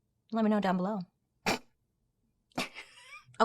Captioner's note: snorts; laughs